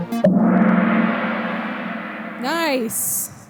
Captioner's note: gong sound